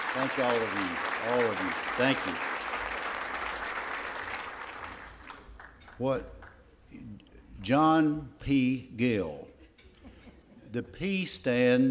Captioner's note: laughter